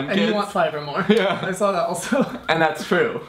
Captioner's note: laughs